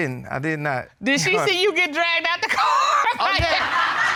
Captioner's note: laughs; audience laughing